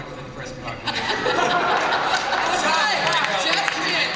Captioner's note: laughter